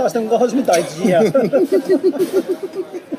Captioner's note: SOON and OR KIA laughs